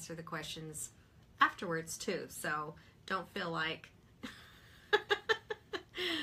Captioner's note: chuckles